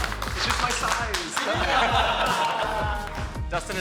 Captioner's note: all clapping; upbeat music; all chuckling